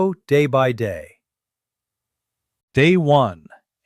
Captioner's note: pause